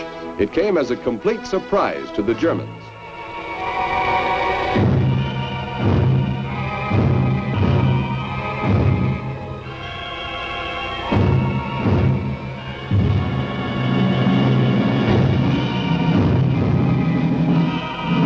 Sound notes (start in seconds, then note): 4.8 artillery booming; 5.2 dramatic music